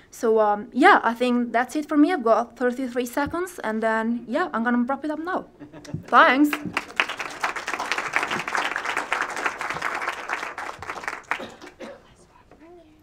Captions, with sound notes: So yeah, I think that's it for me, I've got 33 seconds. And then yeah, I'm going to wrap it up now. Thanks. (APPLAUSE)